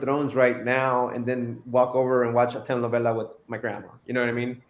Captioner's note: foreign language